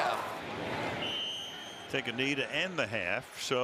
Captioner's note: whistle